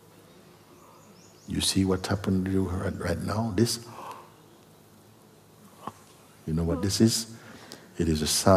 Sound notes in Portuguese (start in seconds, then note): 4.7 bocejo